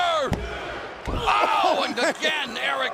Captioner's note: crowd cheering